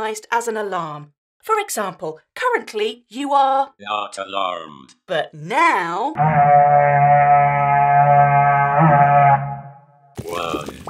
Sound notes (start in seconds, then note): 6.1 raid horn sound